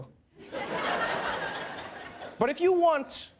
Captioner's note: laughter